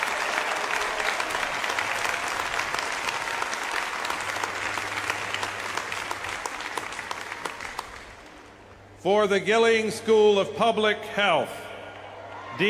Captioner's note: applause